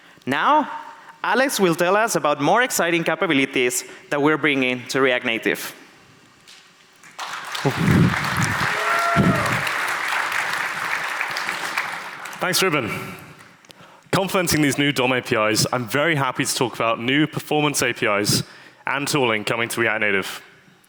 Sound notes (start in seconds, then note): 7.0 audience applauds